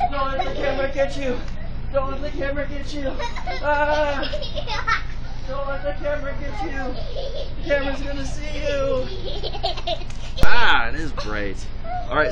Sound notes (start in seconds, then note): 0.0 children playing and laughing; 9.1 children laughing